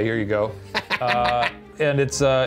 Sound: laughing

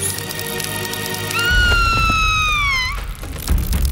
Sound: screams

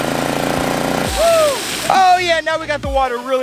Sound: engine rattle

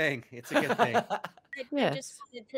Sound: laughing

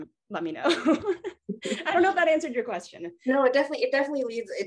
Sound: laughs

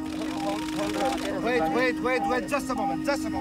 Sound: beeping sound

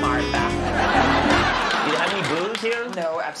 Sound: audience laughing

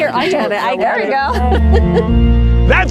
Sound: laughs

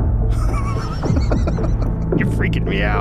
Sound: Joe Rogan laughing nervously

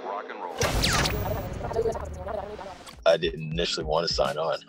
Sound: tape rewinds

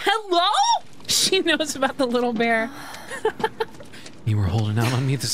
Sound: laughter

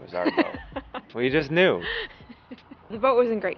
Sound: laughing

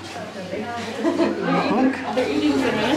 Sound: laughs

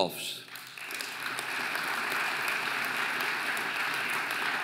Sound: audience applauding

